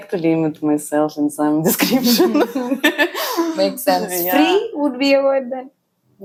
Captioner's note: laughs